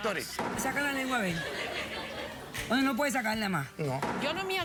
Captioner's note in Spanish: risas